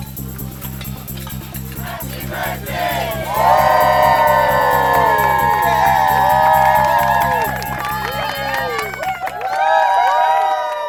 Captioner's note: hoorays